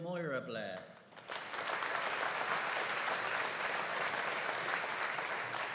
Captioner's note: audience applauding